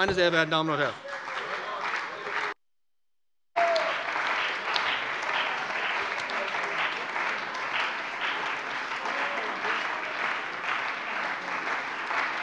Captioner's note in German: Anhaltender lebhafter Beifall bei dem BÜNDNIS 90/DIE GRÜNEN und der CDU